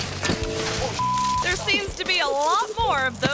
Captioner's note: bike thuds; biker thuds; beep